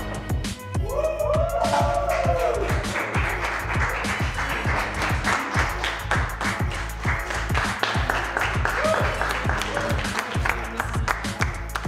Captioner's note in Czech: jásot, potlesk